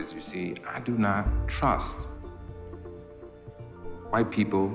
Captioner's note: none